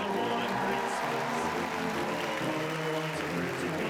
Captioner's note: audience cheers and applauds